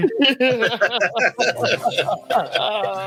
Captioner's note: laughing